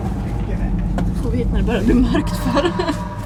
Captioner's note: nervous laugh